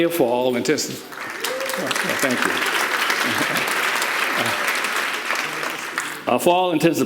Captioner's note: audience applauding